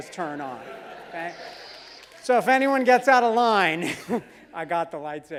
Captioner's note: laugh